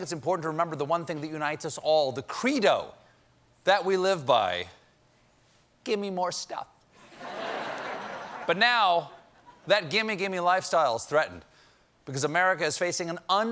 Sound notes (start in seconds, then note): 7.0 laughter